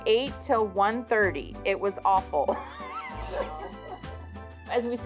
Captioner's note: laughs